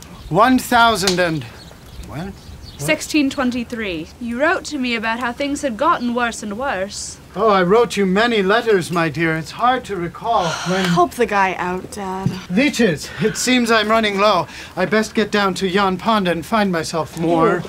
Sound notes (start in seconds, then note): 10.4 sigh!